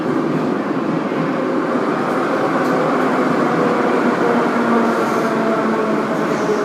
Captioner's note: braking - arrival at the station